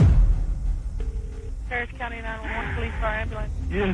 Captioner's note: line ringing